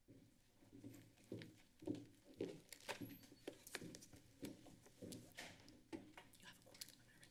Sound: footsteps; whispering

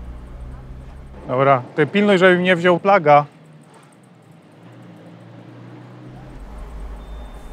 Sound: car noise in the background

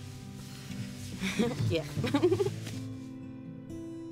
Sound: giggles

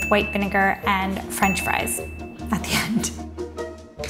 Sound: bell dinging

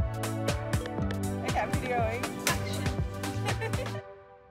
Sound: chuckles

